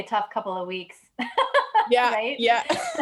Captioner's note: laughs